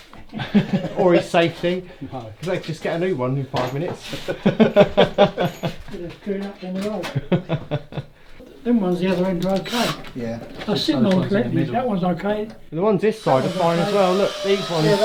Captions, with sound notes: or his safety Because they'd get a new one in five minutes. (Laughter) they was queuing up down the road. them ones the other end are ok theyre sittting on the beam, that ones ok the ones on this side are fine aswell, look these ones